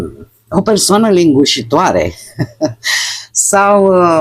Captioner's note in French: haha